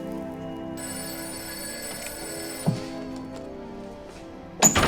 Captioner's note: phone ringing